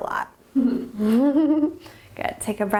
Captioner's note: laughing